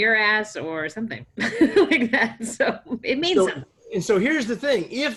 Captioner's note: laughter